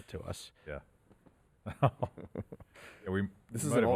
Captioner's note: laugh